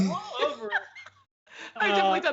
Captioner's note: laughs